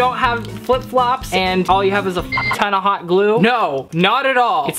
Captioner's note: beep